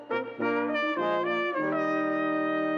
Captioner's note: none